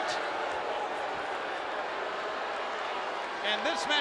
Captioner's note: spectators cheering